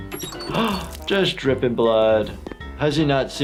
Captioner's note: gasps